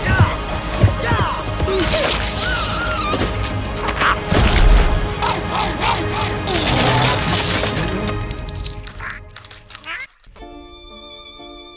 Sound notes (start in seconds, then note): 2.3 squeals; 5.2 barks; 8.5 crunches